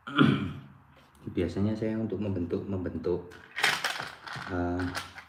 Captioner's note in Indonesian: berdehem